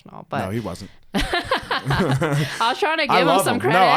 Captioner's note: both laughing